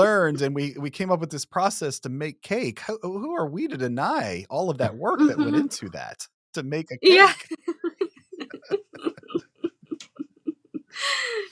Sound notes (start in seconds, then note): 8.3 chuckles